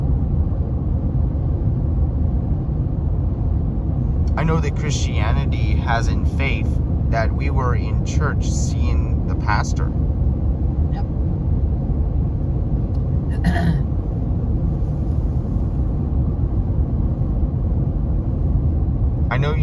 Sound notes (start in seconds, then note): 13.4 clears throat